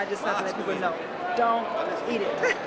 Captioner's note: laughter